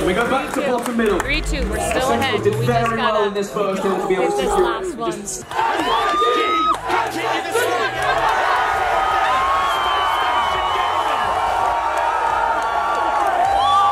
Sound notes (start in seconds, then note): 8.3 crowd cheering